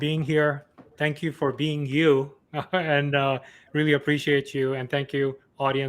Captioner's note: laughs